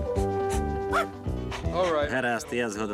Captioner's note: barking